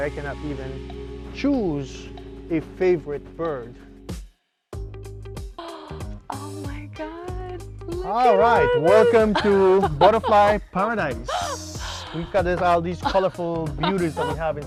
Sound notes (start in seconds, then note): 5.0 lively Music; 12.0 laughter